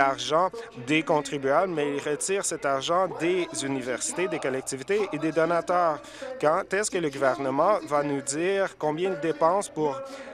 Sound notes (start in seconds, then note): none